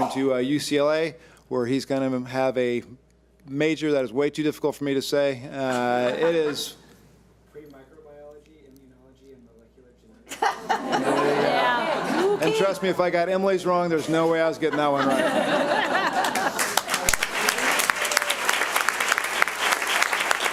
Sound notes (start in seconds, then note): 5.7 audience laughs; 10.3 audience laughs; 14.4 audience laughs; 15.7 audience applauds